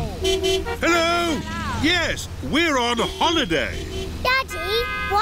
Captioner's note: horns honking